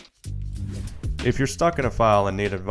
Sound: air whooshing

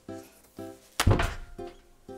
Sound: snap

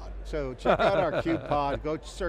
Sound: laughs

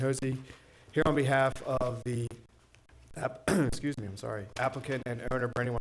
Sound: coughs

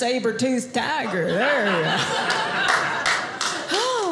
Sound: audience laughing

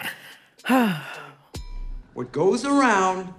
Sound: sighs

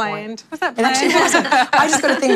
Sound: laughter

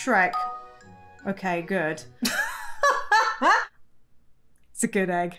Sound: laughs

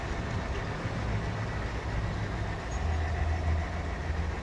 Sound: wind blowing; birds chirping

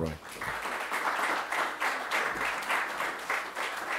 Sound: applause

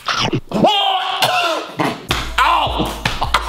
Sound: screaming and gagging

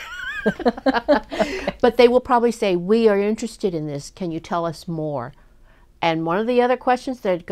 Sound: laughs

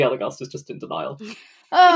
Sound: laughs

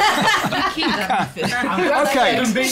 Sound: laughter

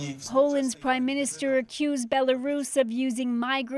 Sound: speaking foreign language

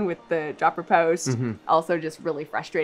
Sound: hums agreeingly

